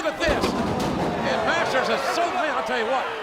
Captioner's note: body thuds